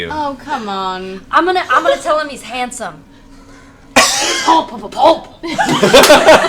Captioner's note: speaks Undercommon; laughter